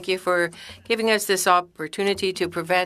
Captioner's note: speaking French